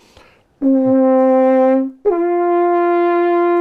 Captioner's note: horn blowing